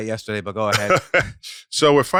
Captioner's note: laughs